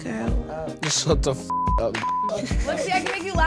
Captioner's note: beep